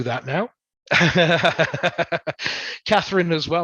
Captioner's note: laughs